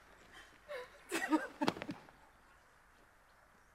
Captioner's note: Mabel sobs